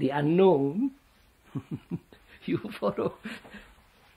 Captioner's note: laughs